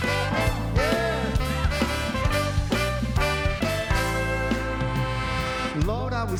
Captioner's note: audience cheering